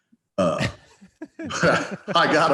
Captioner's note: both laughing